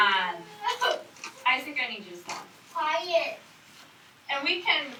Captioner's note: student whines